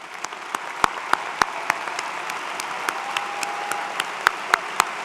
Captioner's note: applause